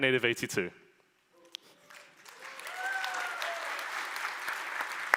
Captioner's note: applause